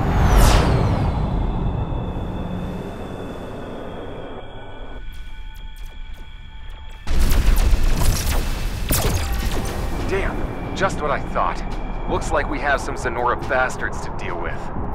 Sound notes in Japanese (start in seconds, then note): 0.0 ビューという音; 4.9 遠くのレーザー発射音